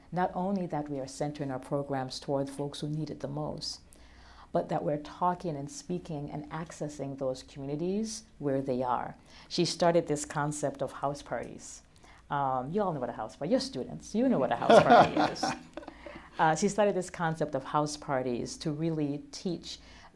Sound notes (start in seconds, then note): 14.6 laughter